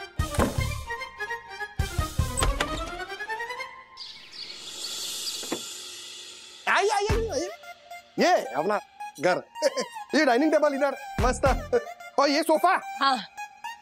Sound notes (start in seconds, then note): 0.0 door closing; 3.8 birds chirping